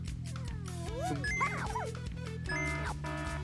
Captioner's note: item beeps; alarm blaring